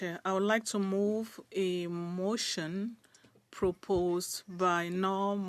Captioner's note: speaking French